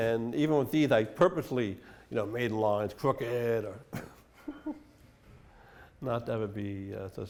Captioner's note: chuckles